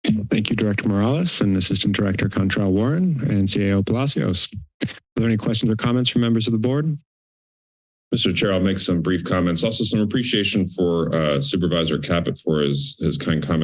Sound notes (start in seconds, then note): 7.0 silence